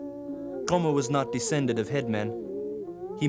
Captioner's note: non-english speech